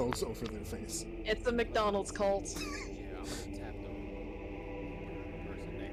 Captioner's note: wheezes